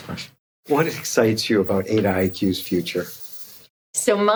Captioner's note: laughing